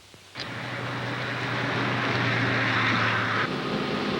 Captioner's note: bus engine whirring